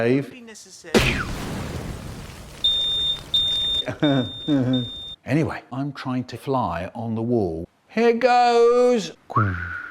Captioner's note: pyooo; beeping